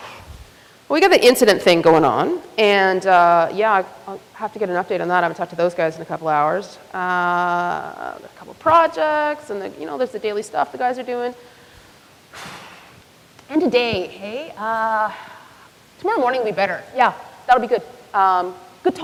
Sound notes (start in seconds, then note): 12.3 sighs